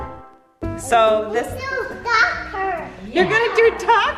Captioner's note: baby talking